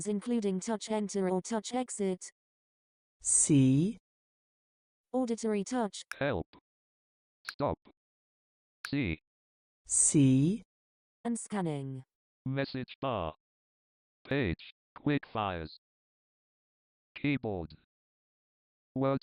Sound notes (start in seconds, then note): 6.1 TD Snap - male scanning voice; 12.3 TD Snap - male scanning voice